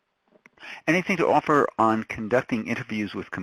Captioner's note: voiceover